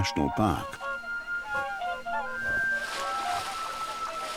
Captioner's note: swans honk